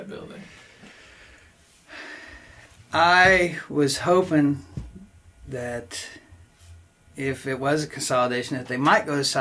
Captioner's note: sighs